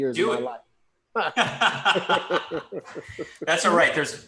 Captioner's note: laughs